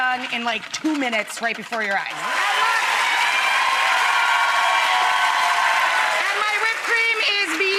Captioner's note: cheering and applause